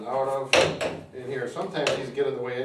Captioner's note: arms thud